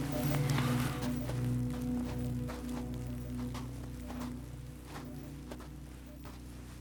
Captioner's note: soft music; footsteps thudding